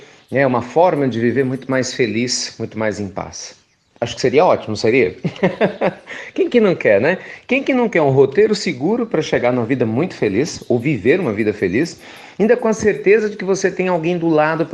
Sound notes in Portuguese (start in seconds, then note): 5.2 Risos